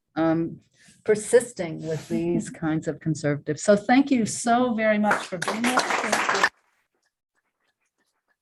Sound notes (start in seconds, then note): 5.0 applause